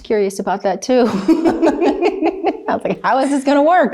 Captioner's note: both laughs